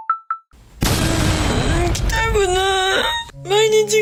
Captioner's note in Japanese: 突然の号泣